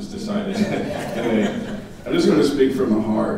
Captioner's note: audience laughing